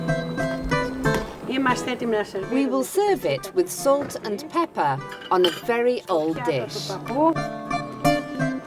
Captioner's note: speaking Greek